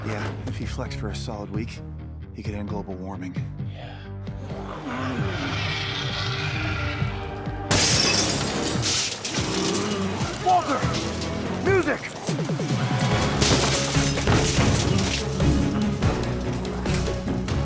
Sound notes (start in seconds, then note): 5.0 intense music continues; 8.0 glass shatters; 13.3 intense music continues